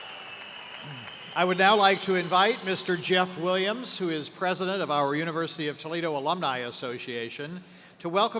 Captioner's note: cheers and applause